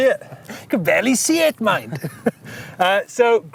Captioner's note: laughs